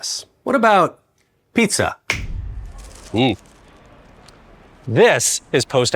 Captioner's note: fingers snapping